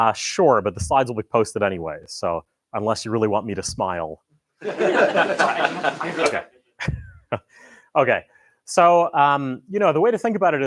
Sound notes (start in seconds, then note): 4.6 laughter